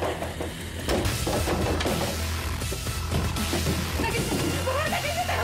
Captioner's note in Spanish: Toques fuertes en la puerta